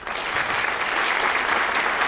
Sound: applause

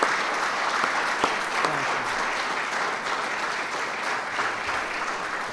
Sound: applause

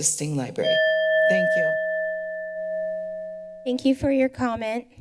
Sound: alarm ringing

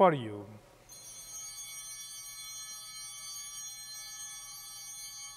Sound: bell ringing

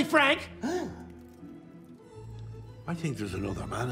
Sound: gasps

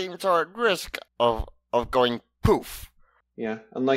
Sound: poof

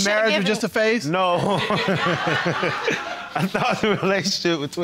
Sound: laughs

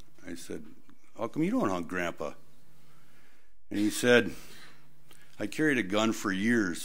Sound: none

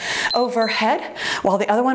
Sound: timer beeps

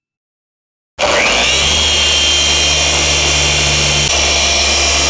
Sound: polishing machine buzzing

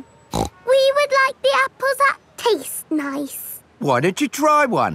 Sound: snorts

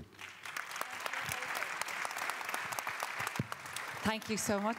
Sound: applause

